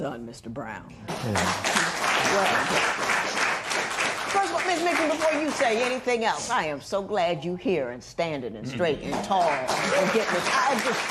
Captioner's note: applause